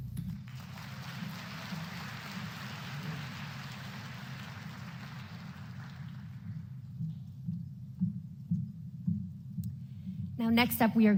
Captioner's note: applause